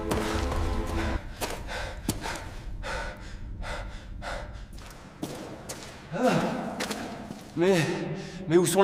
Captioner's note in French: halètement; soupir